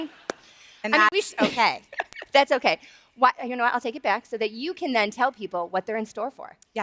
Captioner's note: applause